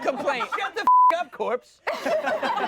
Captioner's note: beep; everyone laughs